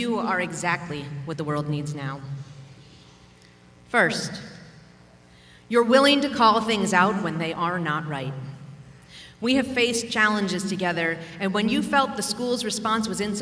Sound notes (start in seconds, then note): none